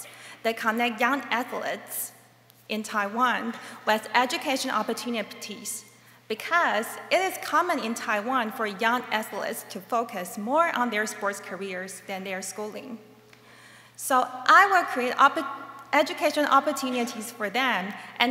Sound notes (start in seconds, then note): none